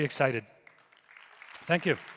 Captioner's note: audience applauding